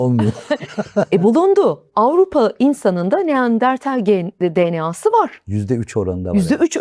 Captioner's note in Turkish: kahkaha